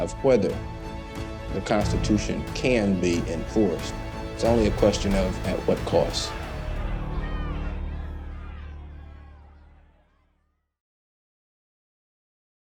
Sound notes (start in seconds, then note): 7.2 people shouting